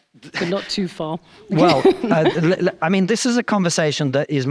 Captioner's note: chuckles